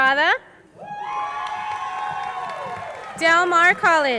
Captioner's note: crowd cheering and applauding